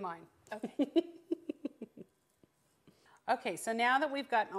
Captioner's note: laughing